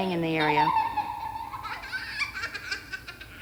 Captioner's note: giggling